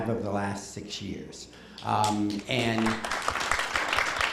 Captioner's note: applause